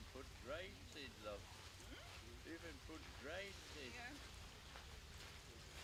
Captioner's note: indistinct conversation